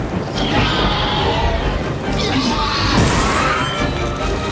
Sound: velociraptor growls; dinosaurs fighting

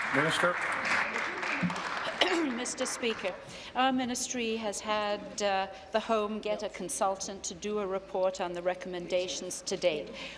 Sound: applause

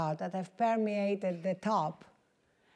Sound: none

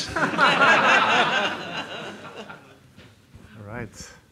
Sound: audience laughing

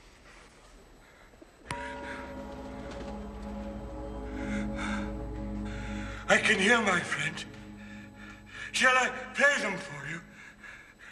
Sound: bell rings

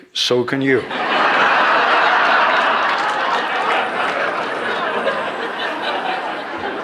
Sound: laughter

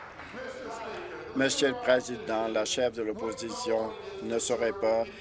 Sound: applause

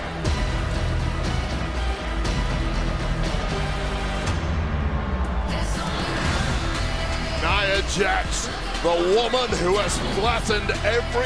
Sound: booing

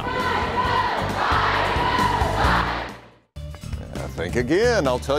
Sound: cheerleaders lead "Go, Fight" cheer

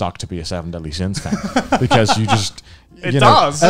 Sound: laughing

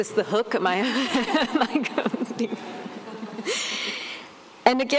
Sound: laughter

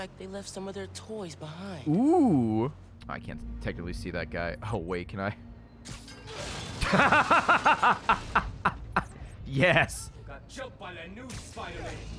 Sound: laughs

